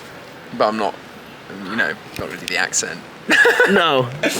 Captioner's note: laughs